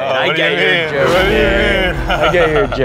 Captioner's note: laughs